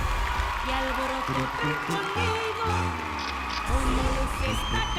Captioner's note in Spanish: Ovación